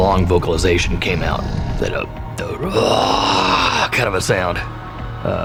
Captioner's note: roar